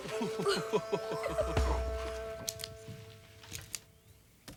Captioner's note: Tom chuckles; Annie and Tom laugh